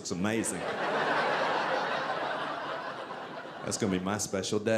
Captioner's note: audience laughing